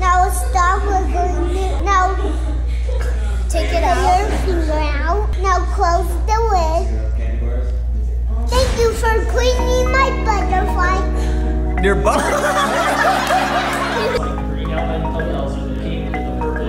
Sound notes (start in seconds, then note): 12.1 laughter